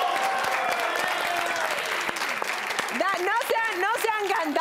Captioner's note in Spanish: Gritos y exclamaciones